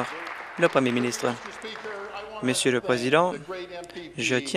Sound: applause

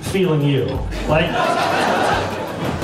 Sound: laughs

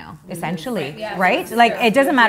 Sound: women agreeing

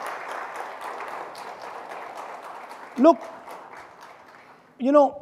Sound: audience applauding

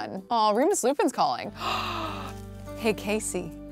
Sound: gasping

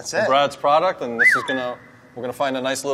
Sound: whistles

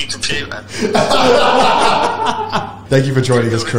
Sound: laugh

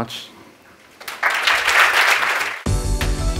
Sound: applause

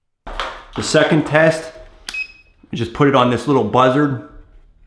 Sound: beep

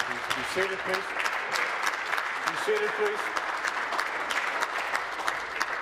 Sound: applause

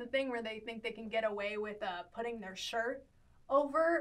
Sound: none

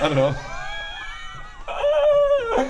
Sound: laughs

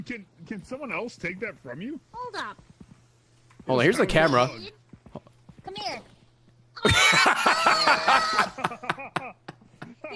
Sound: laughs

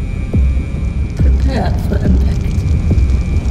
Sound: ship system over speaker

